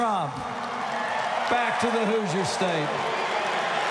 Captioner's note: applause